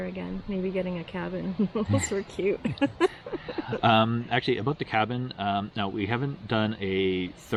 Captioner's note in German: beide lachen